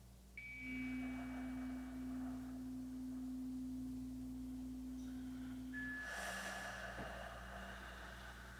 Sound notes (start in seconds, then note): 0.4 chimes ringing continues; 1.8 slow breathing continues